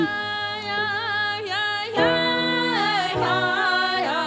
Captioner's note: chanting